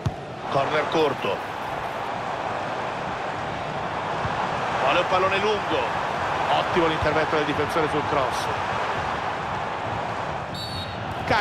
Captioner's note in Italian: Applauso